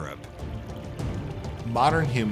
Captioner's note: stream babbling